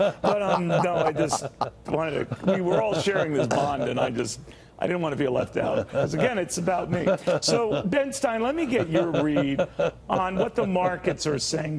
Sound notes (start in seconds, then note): 4.2 laughter